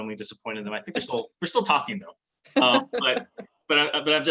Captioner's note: chuckles